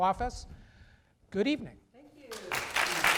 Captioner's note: applause